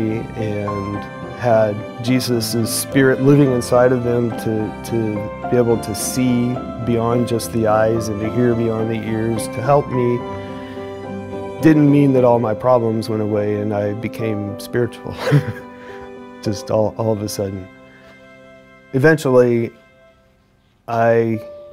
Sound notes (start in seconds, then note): 15.1 chuckles